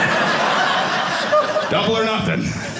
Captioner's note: audience laughing